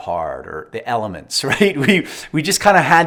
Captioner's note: laughs